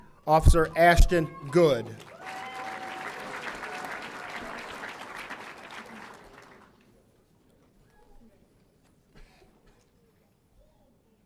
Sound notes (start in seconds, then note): 2.6 audience applauding; 2.6 audience cheering